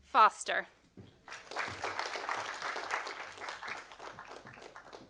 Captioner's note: audience applauding